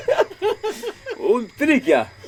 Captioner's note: laughs